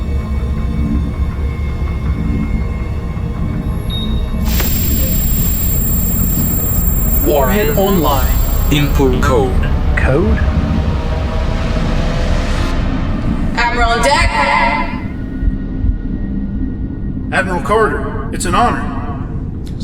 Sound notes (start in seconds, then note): 4.4 device beeps; 11.9 tense music rises